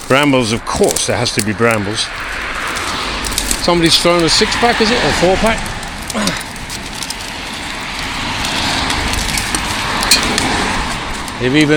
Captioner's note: road noise